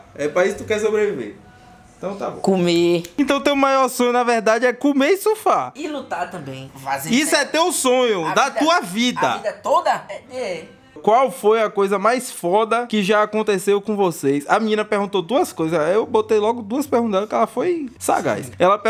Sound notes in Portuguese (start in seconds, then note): 3.3 tapinhas